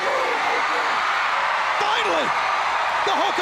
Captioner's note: crowd chattering